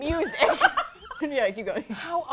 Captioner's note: laughter